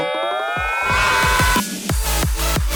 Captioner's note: Cutter screams